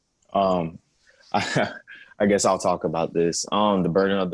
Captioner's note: laughter